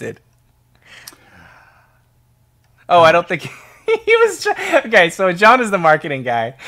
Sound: laughing

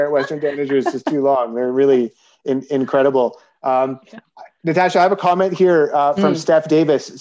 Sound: haha

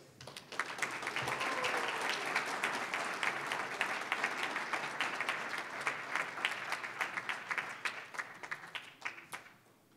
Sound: applause

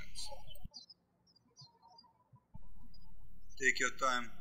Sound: birds chirping

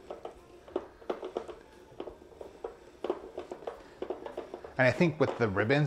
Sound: vegetable spiralizer clacking

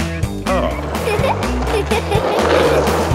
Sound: giggles

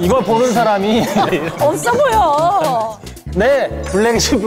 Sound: hehe

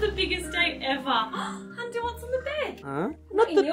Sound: gasps

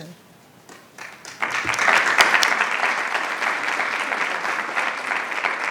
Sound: attendees applauding

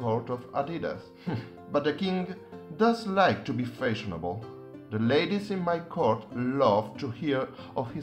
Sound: chuckles

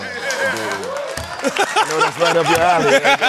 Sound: laughter

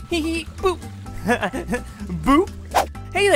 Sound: laughing

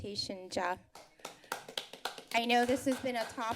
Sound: applause

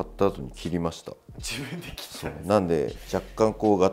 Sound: laughs

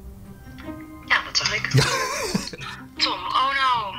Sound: laughs

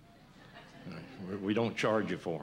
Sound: laughter

